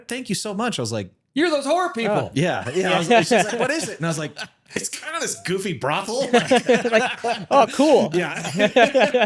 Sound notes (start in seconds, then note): 6.1 both laughing